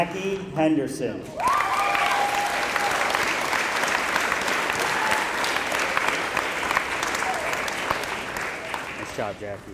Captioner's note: applause